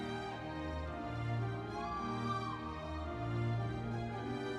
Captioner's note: audience members cheering